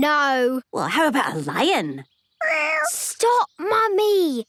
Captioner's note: small meow